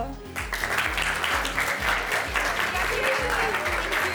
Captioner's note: students clapping